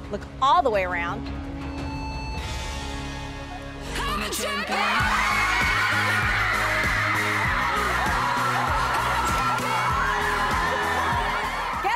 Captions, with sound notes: Look all the way around. (girls scream) (strong rock music)